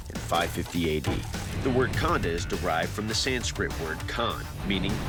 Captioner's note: sanskrit